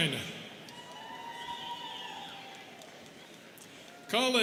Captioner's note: students cheering